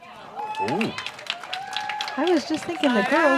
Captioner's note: applause